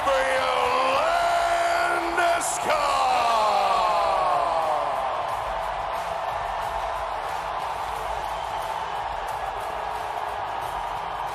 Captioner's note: Applause, crowd chants Landy